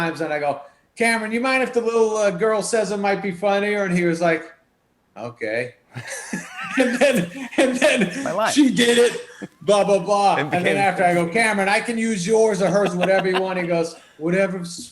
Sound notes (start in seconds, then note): 5.9 both laugh